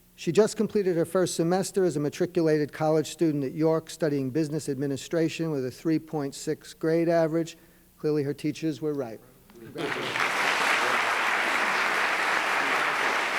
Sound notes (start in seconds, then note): 9.6 applause